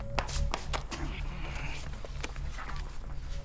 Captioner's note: sounds of struggle